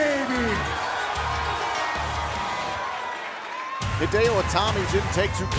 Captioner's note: cheers and boos